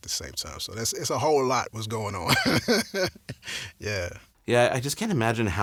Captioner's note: laughs